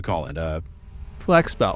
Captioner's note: humming drone fans can be heard in the background